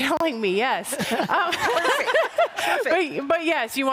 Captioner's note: laughter